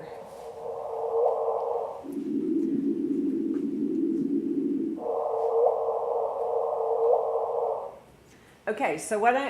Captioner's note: whooshing